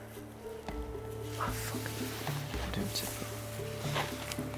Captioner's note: whispering